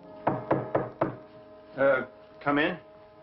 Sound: knocking

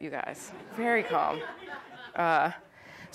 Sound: audience laughs

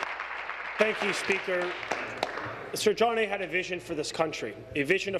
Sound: applause

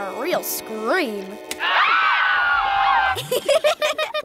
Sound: screaming

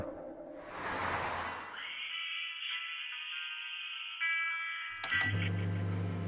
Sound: quiet radio sounds; Wagie's microwave making microwave sounds

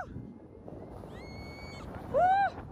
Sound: child screaming

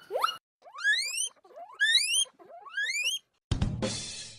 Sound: A real guinea pig noise

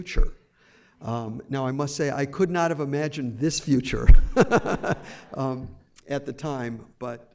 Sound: laughs

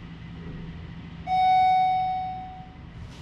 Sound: ding

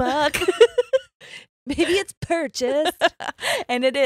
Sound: both laugh

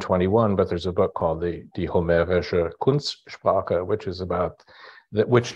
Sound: german

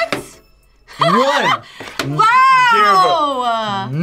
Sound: laughs

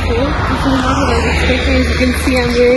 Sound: none

